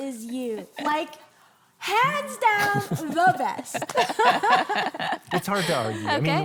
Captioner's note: all laughing softly